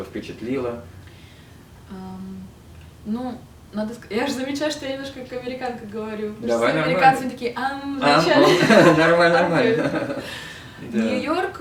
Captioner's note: laughing